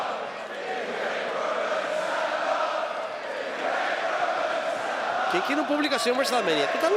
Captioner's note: applause